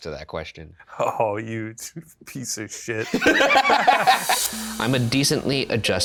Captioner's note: Shane and Ryan laughing